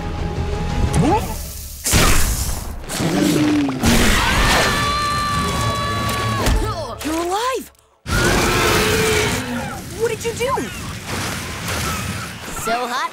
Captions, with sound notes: [gasps] [Sprig screaming] You're alive. What did you do?